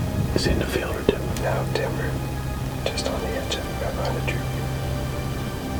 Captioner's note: whispering